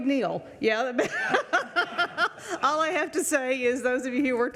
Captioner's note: laughing